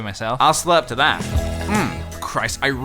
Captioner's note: slurp